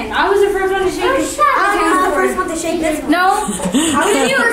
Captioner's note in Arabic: الأطفال يتحدثون مع بعضهم البعض